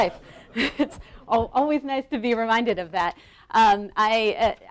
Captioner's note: laughing